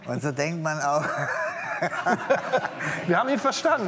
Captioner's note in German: Lachen